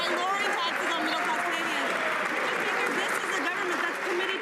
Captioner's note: some laughter